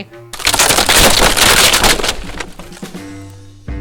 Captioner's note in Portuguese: Barulho de uma pilha de madeira caindo